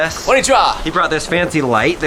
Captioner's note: foreign language